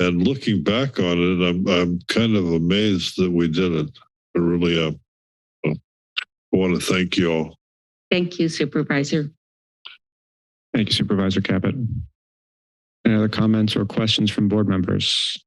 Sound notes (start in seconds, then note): 7.4 silence; 9.3 silence; 11.9 silence